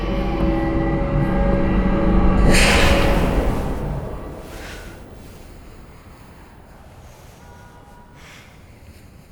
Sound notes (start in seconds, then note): 1.7 cart banging; 3.1 Katie gasping